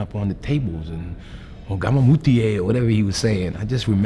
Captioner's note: speaks foreign language